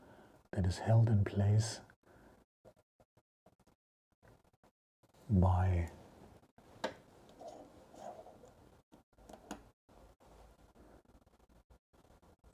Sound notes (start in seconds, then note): 2.2 silence